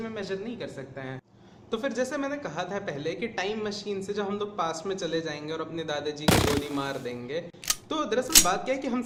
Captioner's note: gunshot sound